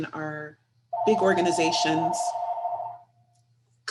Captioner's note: phone ringing